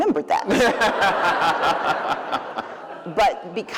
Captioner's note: laughter